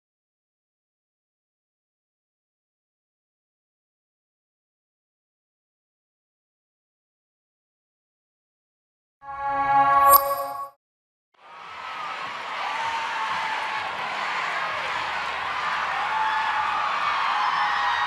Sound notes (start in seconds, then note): 11.4 cheering